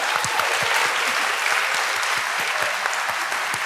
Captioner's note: applause